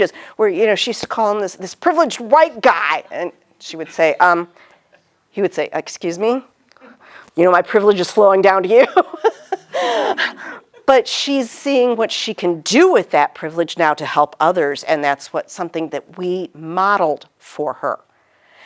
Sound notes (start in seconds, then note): 8.8 laughing